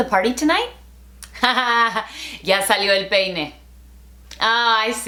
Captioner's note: laughing